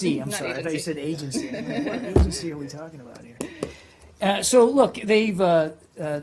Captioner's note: laughter